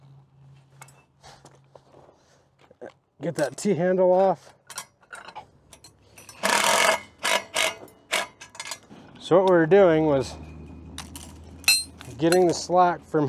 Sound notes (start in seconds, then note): 6.4 drill whirs